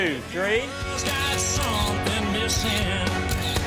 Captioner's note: camera clicking; upbeat music